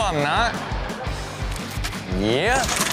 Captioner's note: audience laughs